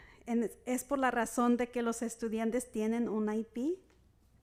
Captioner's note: speaking Spanish